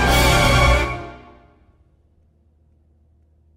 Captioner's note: music stops